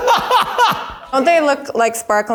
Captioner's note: laughs